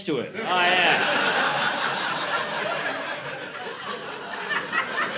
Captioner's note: laughter